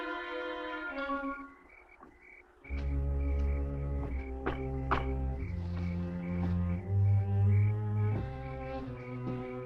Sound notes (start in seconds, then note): 4.3 knuckles rapping